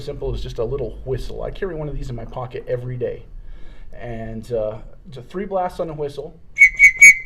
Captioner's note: three whistle sounds